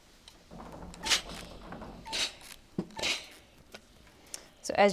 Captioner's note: iron clanks